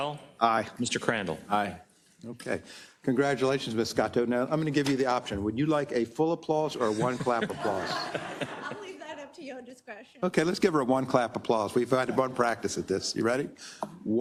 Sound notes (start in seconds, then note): 6.8 laugh